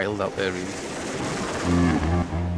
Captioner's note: waves crashing; water whooshing; intense music